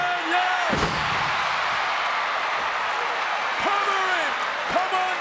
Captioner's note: audience cheering